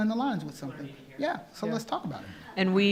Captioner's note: man speaking off mic